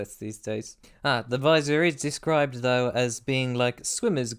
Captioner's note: none